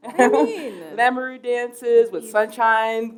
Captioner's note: chuckle